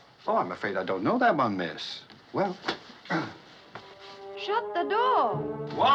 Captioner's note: clears Throat